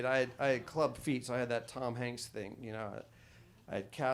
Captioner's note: none